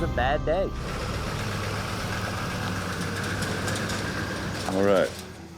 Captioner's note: truck engine